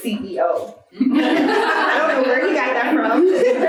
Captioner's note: audience laughing